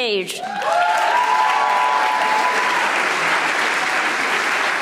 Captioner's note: audience applauding